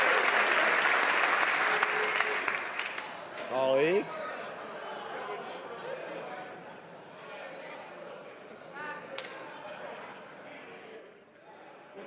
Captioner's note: some Applause